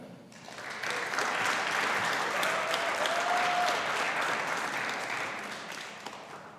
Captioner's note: audience applauding; audience cheering